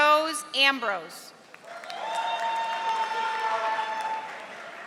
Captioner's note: audience applauding